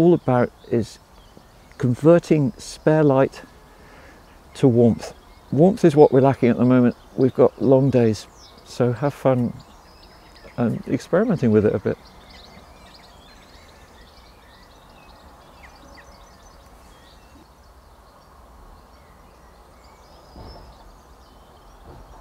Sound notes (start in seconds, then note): 11.9 birds chirping; 11.9 wind whirring